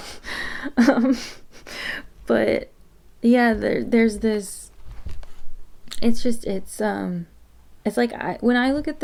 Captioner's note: stumbles over words a bit